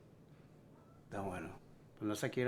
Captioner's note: Spanish